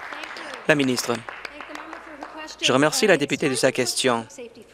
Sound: applause

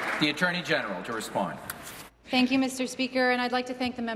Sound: applause

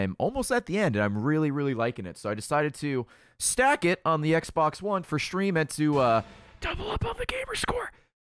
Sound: whispers

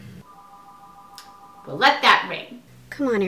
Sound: phone ringing

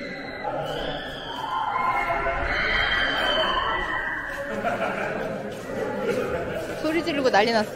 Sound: children screaming excitedly when it rings inside

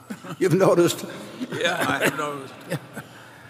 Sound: laughter

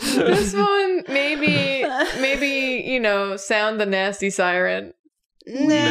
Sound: laughter

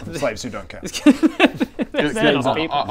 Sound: morally-dubious laughter

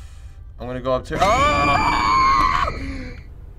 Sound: shrieking

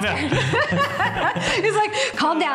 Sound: laughter

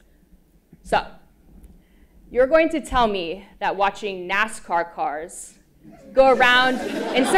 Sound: laugh

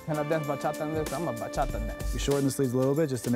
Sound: foreign language

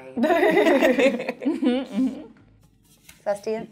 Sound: all chuckle

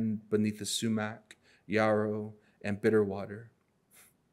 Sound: none

